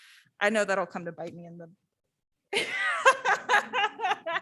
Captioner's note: laughs